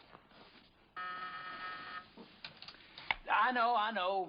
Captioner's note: intercom buzzing